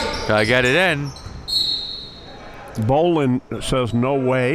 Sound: whistle blows

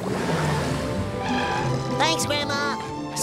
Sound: none

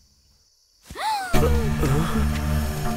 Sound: gasping for air

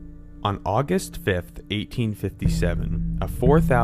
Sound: voiceover

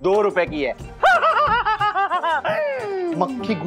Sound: laughs

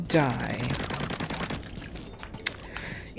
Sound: plap-plap-plap-plap

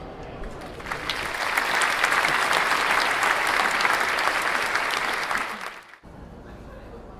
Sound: clapping

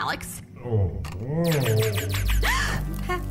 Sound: eerie moan; gasps

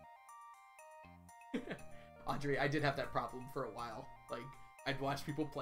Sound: laughs

